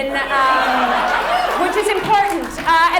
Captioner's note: audience laughs